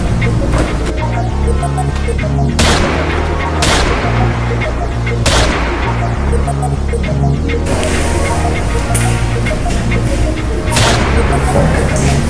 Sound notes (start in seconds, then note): 3.6 gunshot; 5.2 gunshot